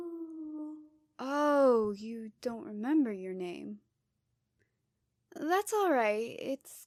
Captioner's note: sad Ghost Noise